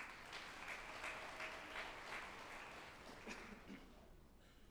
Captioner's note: group applauding